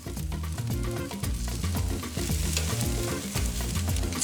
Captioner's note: food sizzling